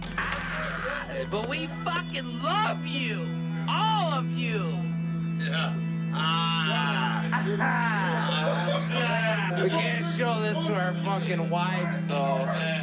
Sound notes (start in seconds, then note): 8.4 partier laughs